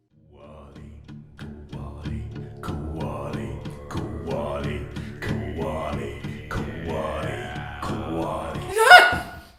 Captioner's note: chanting